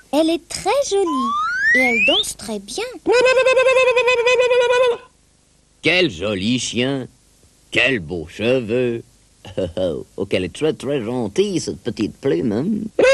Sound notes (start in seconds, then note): 3.1 Native American whooping cry; 9.5 chuckling bashfully